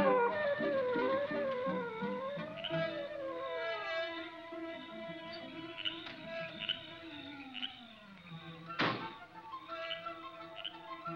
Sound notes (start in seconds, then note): 3.1 frogs croak; 8.7 door slams